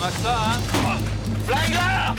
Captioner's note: chuckles